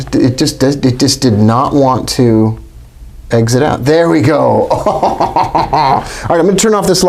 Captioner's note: laughs